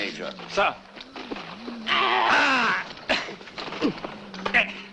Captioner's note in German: grunzt